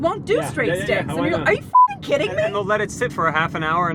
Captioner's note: beep